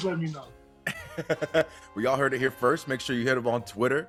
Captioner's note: laugh